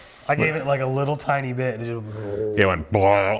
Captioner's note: exclaims